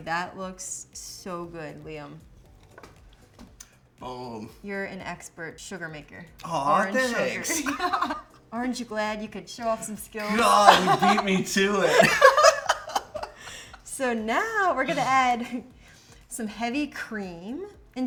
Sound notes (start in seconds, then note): 6.9 both laugh; 12.0 both laugh